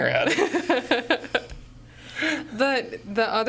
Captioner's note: laughing